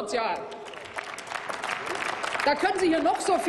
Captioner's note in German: Applaus